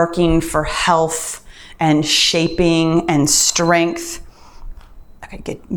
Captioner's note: timer beeps